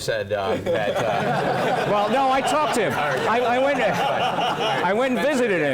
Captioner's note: laugh